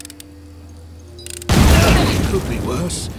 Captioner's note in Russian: бам